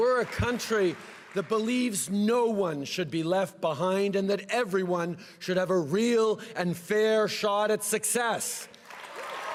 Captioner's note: cheering and applause